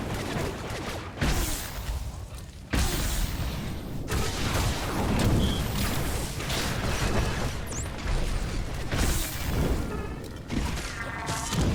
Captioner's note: gunshots